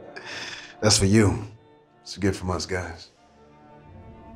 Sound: laughing

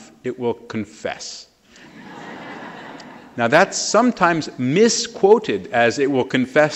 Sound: laughter

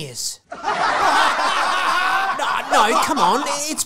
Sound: group Laughter

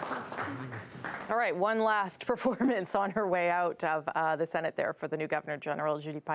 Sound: applause

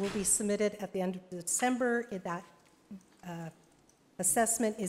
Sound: none

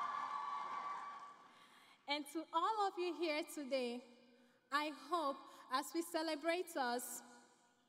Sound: cheering and Applause

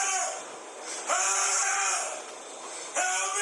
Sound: screaming

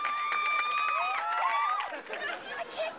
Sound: all cheering

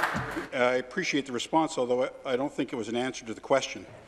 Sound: applause

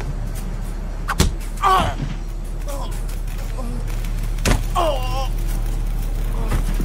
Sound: groaning; wooden beam thuds

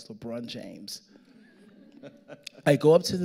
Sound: audience laughing

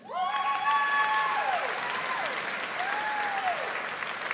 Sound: audience applauds

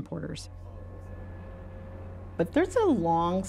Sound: train bell ringing

